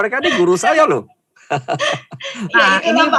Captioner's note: laughing